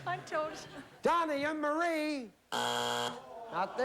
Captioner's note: buzzer